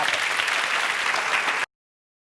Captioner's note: crowd Claps